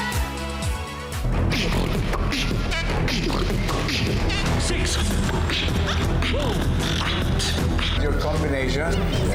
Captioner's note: beatboxing